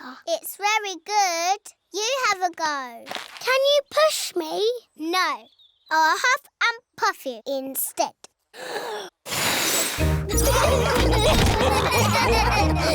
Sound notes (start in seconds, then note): 9.2 blows; 10.3 laughter